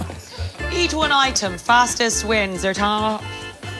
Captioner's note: audience laughing